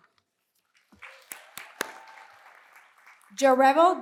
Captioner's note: applause